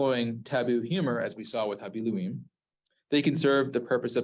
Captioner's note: Hebrew